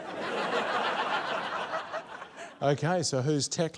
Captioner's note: laughter